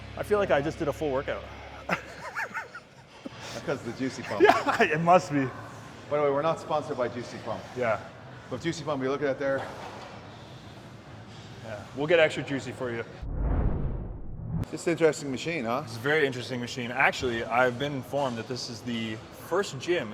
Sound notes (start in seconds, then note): 1.8 both chuckling; 13.2 scene swooshing